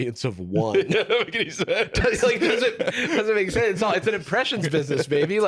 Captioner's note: laughing